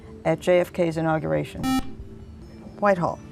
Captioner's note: buzzer